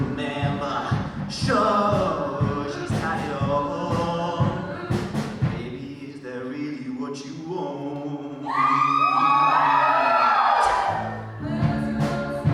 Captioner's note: audience cheers